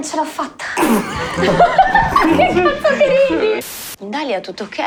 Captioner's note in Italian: Risate